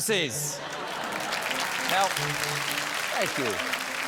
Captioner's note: applause